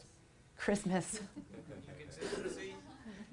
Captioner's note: laughs